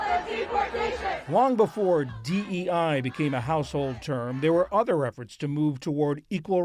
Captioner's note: voice-over